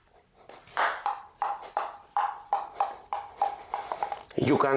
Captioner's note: ball tapping